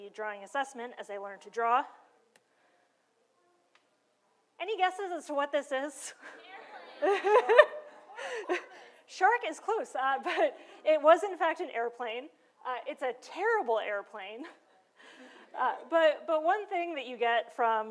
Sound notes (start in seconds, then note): 6.2 crowd; 6.9 laughter